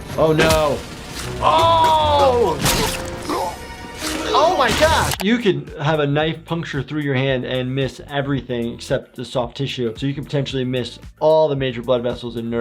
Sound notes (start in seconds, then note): 1.4 Lumpy gagging